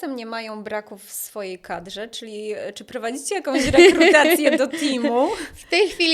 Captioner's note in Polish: śmiech